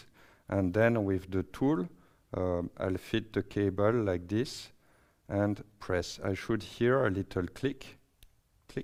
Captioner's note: click